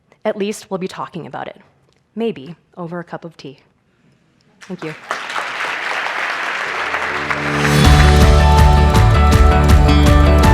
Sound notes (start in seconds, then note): 4.6 audience applauding; 6.8 upbeat music